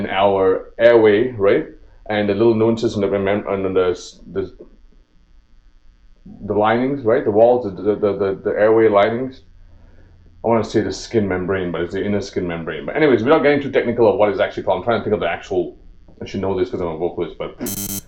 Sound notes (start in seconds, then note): 3.5 stammer; 7.5 stutter